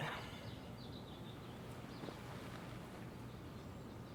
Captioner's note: birds chirping